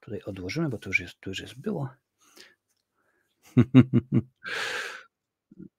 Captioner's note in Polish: śmiech